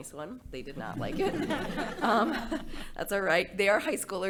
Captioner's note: board laughing